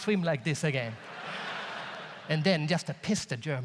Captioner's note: audience laughs